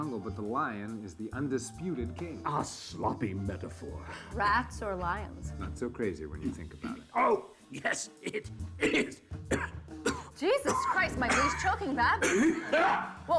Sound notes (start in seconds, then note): 7.8 Marcus clearing throat; 8.7 coughing